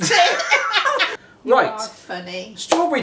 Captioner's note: both laughing